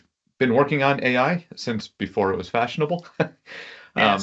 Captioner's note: laughs